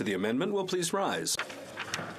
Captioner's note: speaking French